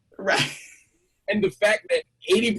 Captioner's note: laughs